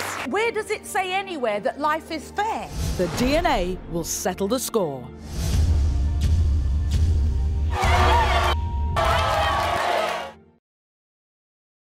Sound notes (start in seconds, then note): 4.9 suspenseful music; 7.6 crowd yelling